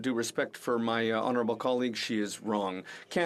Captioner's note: speaking French